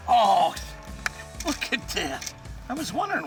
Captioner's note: voiceover